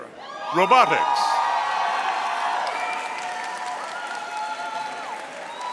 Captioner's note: audience cheering